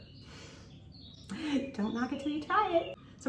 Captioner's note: chuckles